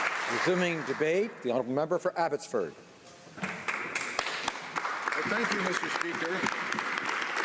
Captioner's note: applause